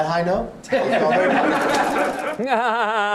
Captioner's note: laughter; fake laughs